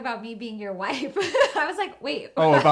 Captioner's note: laughs